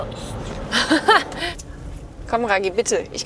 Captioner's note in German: lacht